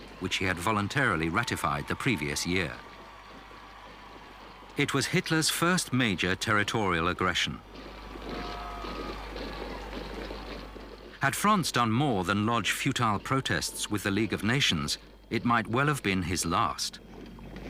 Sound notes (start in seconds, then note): 8.6 crowd cheering